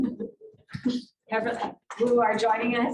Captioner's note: indistinct conversation